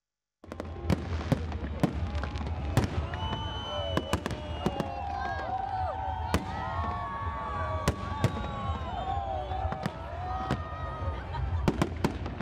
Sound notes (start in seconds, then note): 0.4 fireworks exploding; 3.9 cheering